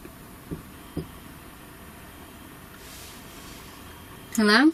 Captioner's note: soft thumping